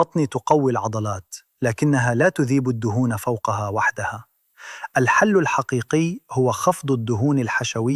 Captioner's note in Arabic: شهيق